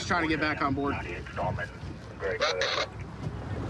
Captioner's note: radio communication